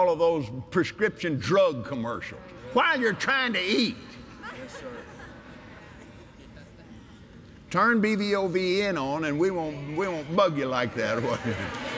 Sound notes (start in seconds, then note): 4.4 laughter; 11.0 cheers & Applause